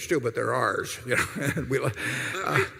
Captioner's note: laughter